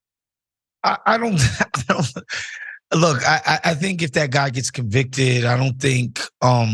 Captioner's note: laugh